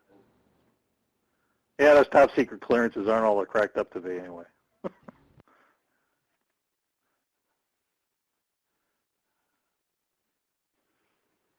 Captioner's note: laughs